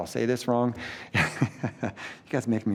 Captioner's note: laughs